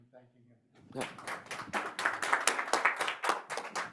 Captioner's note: audience applauds